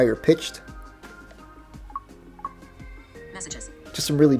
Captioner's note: series of popping sounds